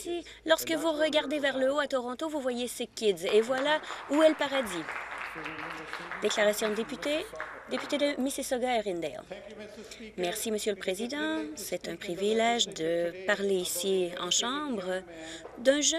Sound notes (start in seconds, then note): 7.1 some Applause